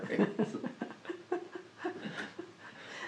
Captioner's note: laughter